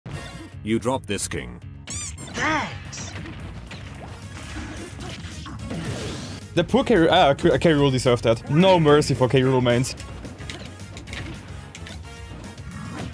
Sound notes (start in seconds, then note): 1.8 squeak